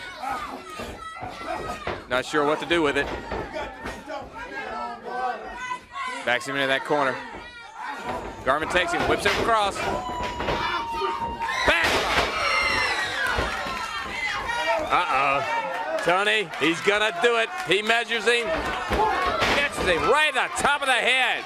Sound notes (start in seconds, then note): 8.2 crowd cheering; 12.6 crowd chatter; 16.6 crowd chatter; 19.9 crowd cheering